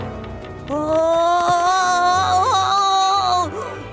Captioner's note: moaning